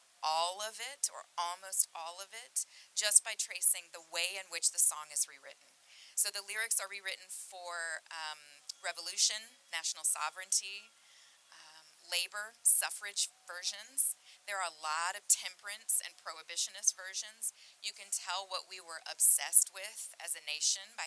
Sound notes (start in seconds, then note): none